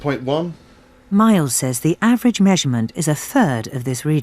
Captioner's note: voiceover